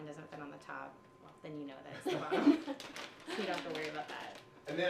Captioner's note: laughs